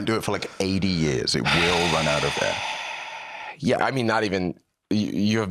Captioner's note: exhales